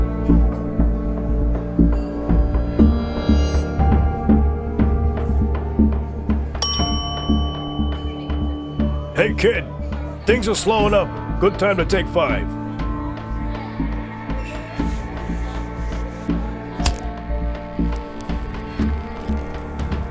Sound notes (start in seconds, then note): 6.6 bell ringing; 16.8 lighter crackling